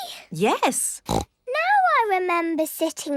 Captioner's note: snorts